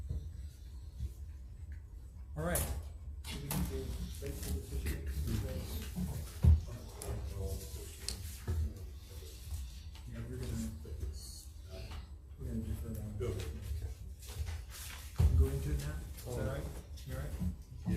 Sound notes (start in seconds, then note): 3.4 group chatter quietly